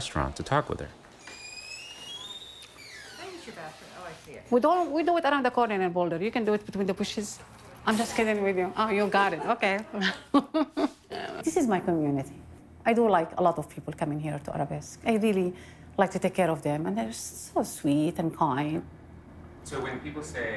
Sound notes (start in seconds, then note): 1.1 door squeaking; 9.2 laughs